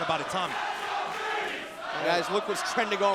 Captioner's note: crowd cheering